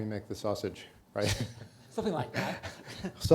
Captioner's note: laughs